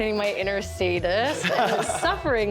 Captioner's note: contestants laugh